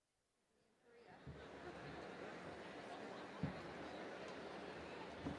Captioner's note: audience chattering